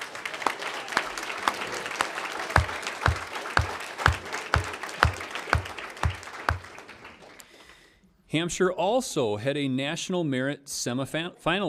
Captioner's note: applause